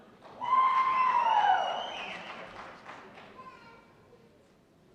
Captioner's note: cheers and applause